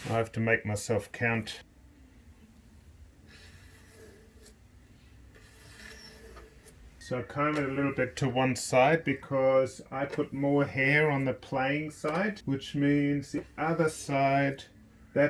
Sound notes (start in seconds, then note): 3.5 hair scratching